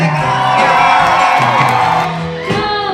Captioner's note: cheering & applause